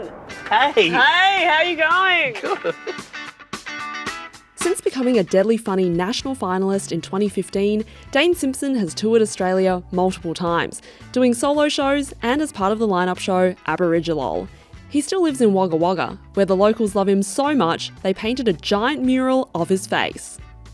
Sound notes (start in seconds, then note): 2.2 chuckling; 3.5 cheerful music